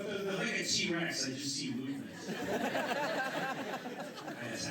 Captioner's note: laughter; laughter